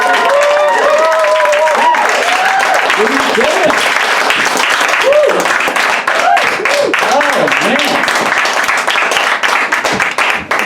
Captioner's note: audience Cheers